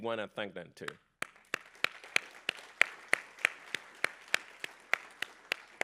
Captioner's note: applause